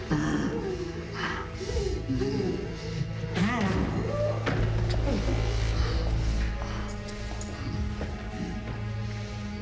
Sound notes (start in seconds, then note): 0.3 Alex panting; 3.7 dramatic music